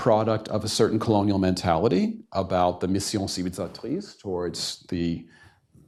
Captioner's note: non-english